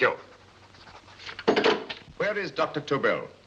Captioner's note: phone clatters into receiver